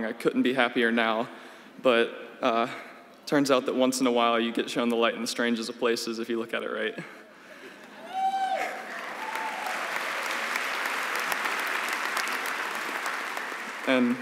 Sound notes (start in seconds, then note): 8.9 laughs; 10.1 applause